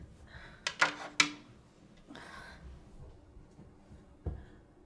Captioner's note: classes clanking